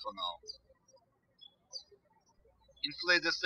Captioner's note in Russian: птички щебечут